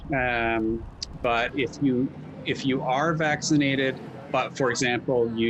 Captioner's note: traffic humming